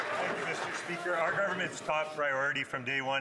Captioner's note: some Applause